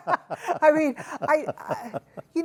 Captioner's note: laughing